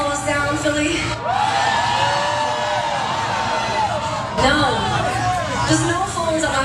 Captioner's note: applause